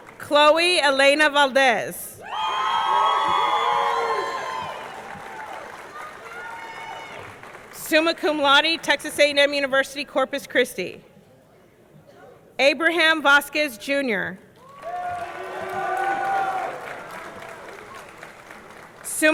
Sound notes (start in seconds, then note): 2.2 audience cheering; 2.6 audience clapping; 14.6 audience clapping; 14.6 audience cheering